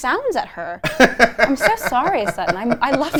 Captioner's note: laughs